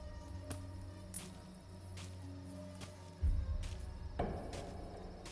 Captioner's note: feet shuffling